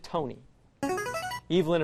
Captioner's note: buzzer